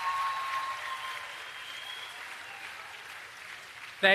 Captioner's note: applause